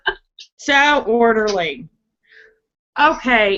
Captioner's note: laughing